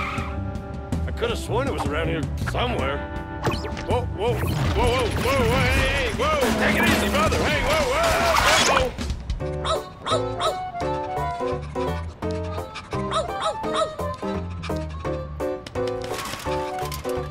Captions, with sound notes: I COULD HAVE SWORN IT WAS AROUND HERE SOMEWHERE. WHOA, WHOA, WHOA, WHOA. WHOA, WHOA, HEY, HEY. WHOA, TAKE IT EASY, BROTHER! HEY, WHOA, WHOA! UH-OH! (panting)